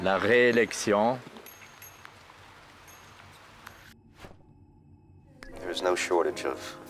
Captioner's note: bicycle bells ringing